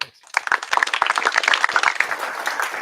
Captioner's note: applause